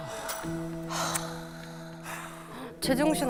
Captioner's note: sighs